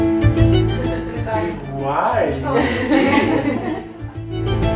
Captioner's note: laughs